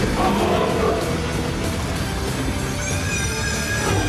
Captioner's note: screeching; roaring